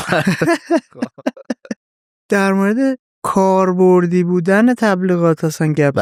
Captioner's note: laughs